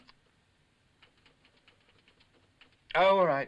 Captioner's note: typewriter chattering